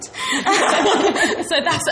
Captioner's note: laughs